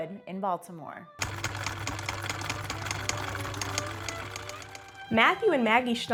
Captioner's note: gentle classical music; machine clicking